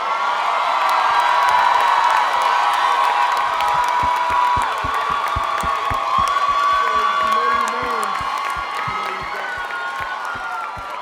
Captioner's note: cheering